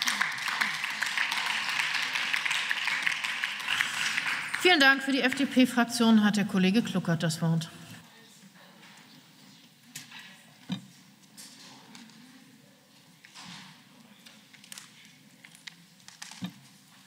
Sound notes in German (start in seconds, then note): 4.5 Beifall